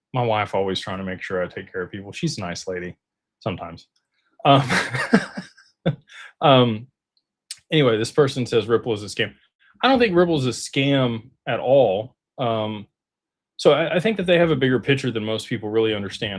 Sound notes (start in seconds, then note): 4.5 laughter